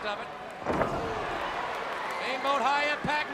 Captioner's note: crowd cheering